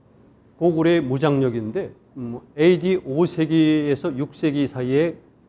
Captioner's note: speaking in Korean